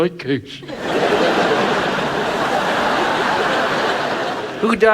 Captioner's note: audience laughs